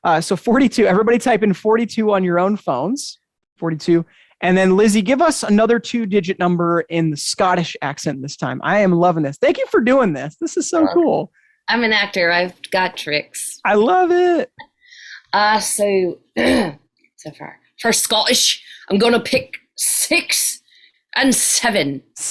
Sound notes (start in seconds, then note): 16.4 clearing throat